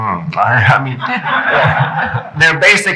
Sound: laughing

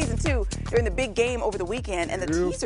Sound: laughing

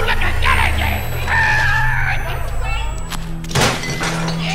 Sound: imitates tires screeching; crash

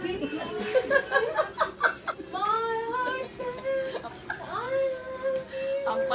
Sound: laughter

